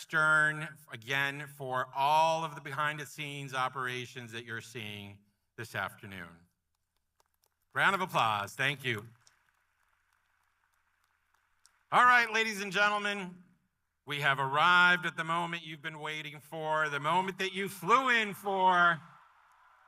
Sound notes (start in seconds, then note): 14.2 applause